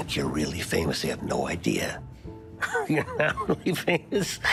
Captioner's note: laughs